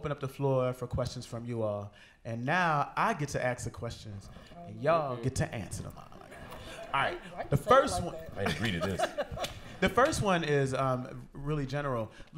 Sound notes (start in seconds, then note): 8.2 laughter